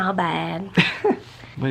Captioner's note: chuckles